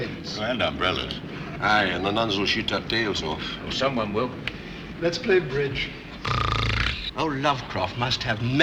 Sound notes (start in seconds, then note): 6.2 snoring